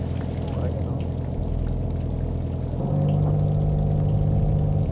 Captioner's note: speaking off microphone